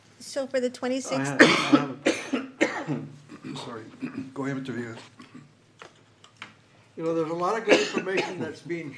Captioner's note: cough; clears throat; cough